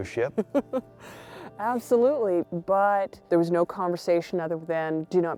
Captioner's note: chuckles